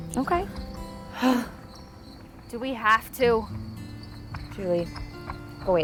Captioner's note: sighs